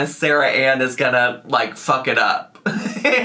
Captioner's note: laughs